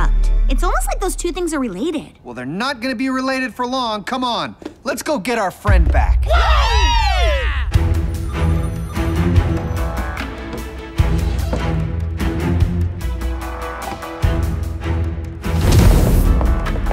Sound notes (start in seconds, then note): 6.2 all cheer; 8.1 phones ringing